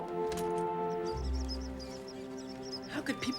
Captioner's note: squeak squeak